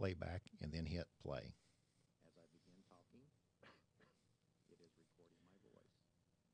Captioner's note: coughs